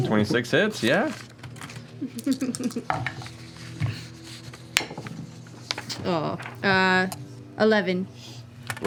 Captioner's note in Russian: смеётся